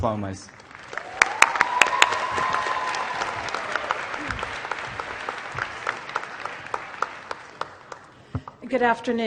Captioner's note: applause